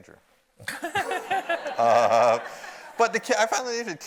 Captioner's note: audience laughs